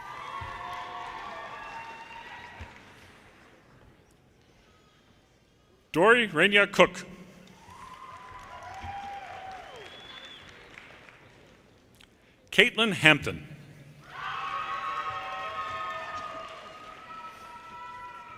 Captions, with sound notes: (audience cheers and applause) Dorienne Renia Cook, (audience cheers and applause) Kaitlyn Hampton, (audience cheers and applause)